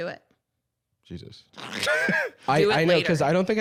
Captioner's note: laughs